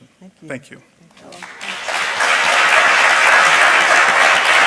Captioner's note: applause